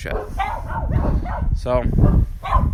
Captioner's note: dogs barking